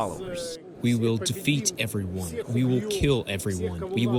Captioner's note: through translator